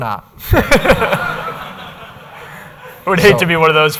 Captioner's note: laughter